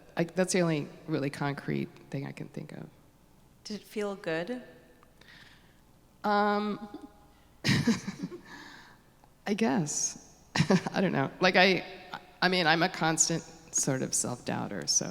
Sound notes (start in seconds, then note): 7.6 laugh